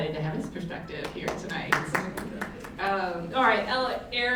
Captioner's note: audience clapping